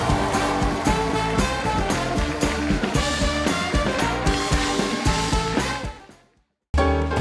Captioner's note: applause